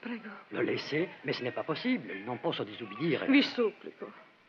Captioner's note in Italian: lingua francese